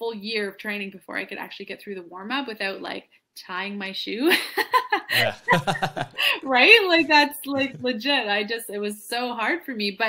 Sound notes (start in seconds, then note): 5.0 laughs